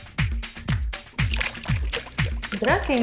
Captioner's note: splashing water